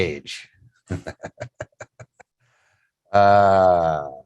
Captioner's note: chuckles